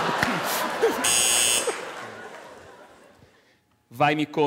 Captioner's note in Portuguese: campainha